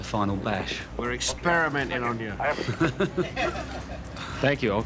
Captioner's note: chuckles